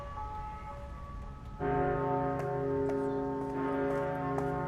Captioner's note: bell tolling